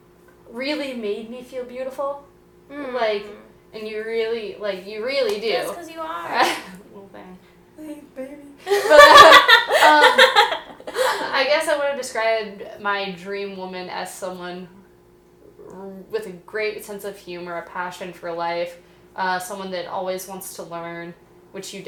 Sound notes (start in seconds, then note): 6.9 goofy voice; 8.6 both laughing; 8.6 laugh